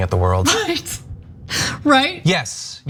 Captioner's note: laugh